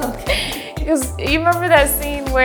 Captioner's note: both laughing